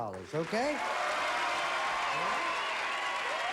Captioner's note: applause